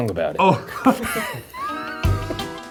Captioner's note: both laugh; upbeat music